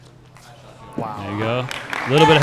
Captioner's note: applause